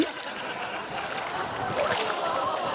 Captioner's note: laughter